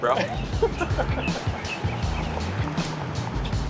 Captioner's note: laughs